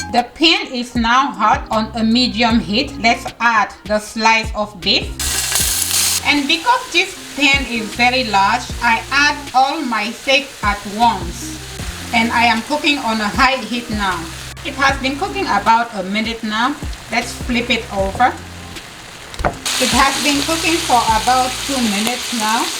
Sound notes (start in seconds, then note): 5.5 cooking oil fizzes